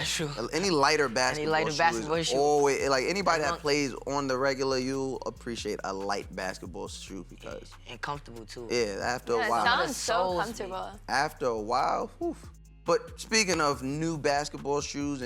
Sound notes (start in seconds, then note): none